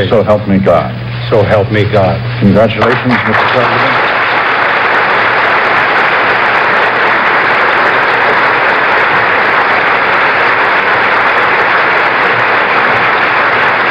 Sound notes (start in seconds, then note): 4.3 applause